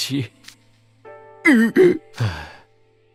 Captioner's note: sighs; cries